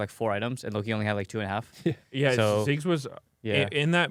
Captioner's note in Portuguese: risos